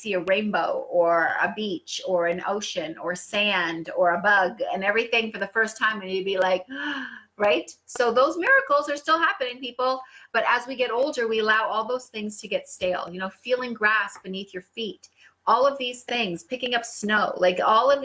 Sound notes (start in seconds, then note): 7.0 gasp